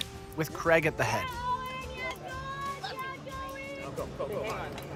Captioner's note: yelling